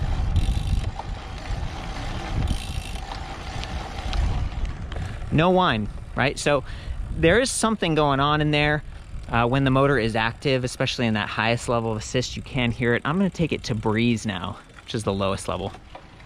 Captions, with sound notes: (spokes ticking) (pedaling hum) (spokes ticking) (pedaling hum) No whine, right, so there is something going on in there when the motor is active, especially in that highest level of assist, you can hear it. I'm gonna take it to breeze now, which is the lowest level.